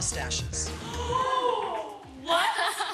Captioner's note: girls gasping